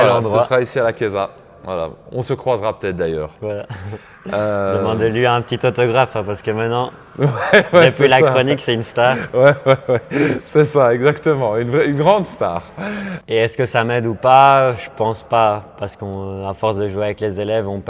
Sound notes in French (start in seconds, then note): 9.1 rires